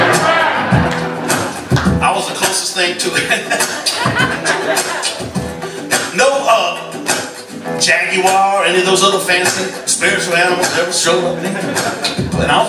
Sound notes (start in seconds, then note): 0.0 laughter; 3.1 laughs; 4.2 vocal percussion